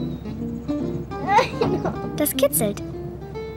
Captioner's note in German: Sie lacht